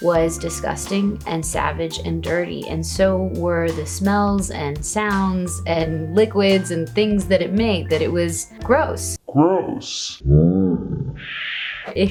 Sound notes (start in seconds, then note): 8.8 deep Voice Male; 10.4 deep Voice Male slow motion